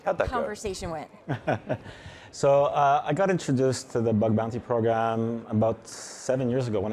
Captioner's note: chuckling